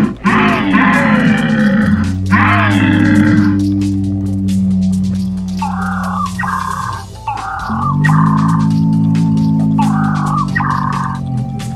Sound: various dinosaur growls

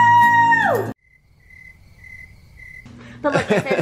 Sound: crickets

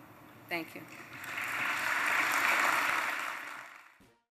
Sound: applause

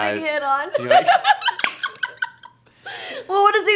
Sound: laughs

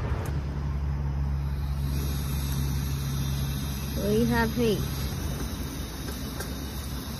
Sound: gas stove hisses

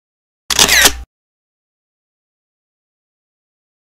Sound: camera shutters

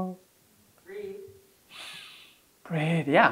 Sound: inhales

